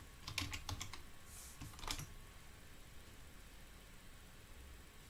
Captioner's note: keyboard clicking